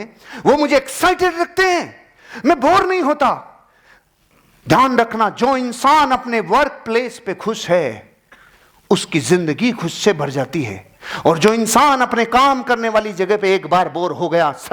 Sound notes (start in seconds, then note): none